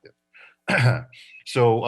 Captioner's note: coughs